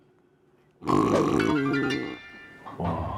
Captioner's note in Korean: 드르렁